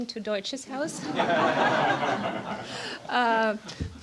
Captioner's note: laugher